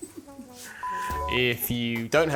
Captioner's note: beeping